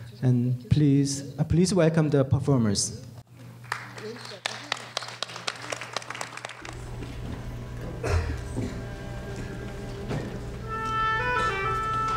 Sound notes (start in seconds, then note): 3.5 applause; 8.8 soft classical music